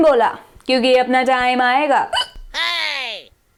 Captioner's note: hiccup